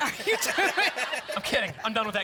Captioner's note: laughter